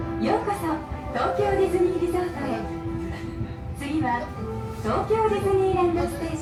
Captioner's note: light music continues; voice on speaker speaking in foreign language